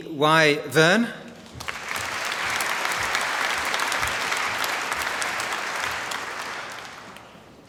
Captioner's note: applause